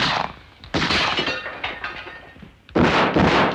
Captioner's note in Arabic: طلقات نارية; طلق ناري; تحطيم الزجاج; اطلاق نار